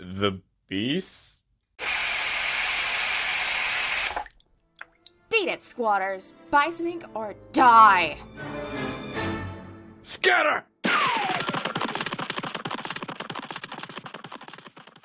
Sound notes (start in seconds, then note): 2.9 water spraying